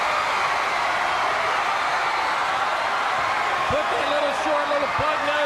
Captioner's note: crowd cheering